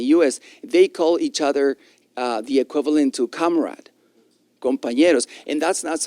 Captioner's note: spanish